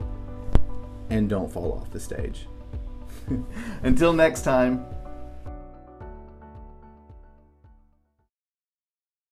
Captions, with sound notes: And don't fall off the stage. (chuckles) Until next time. (gentle music)